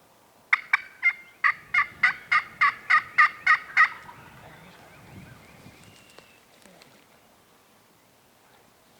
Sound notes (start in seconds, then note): 4.2 turkey faintly gobbling; 5.2 bird tweeting